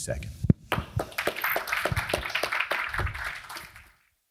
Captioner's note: crowd claps